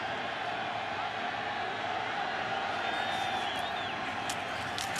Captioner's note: crowd cheering